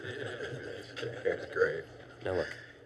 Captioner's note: teachers laugh